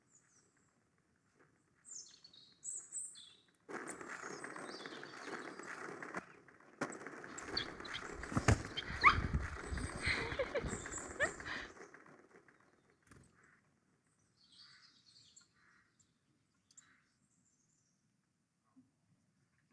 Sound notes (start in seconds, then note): 8.9 dog whines; 10.0 laughter